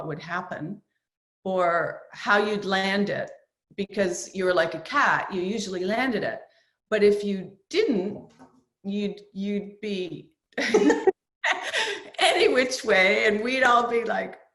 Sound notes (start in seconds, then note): 10.6 both laugh